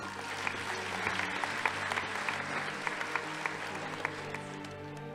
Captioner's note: audience applauding